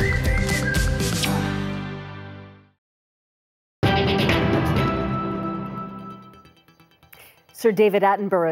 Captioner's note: blows kiss